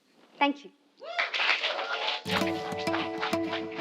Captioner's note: applause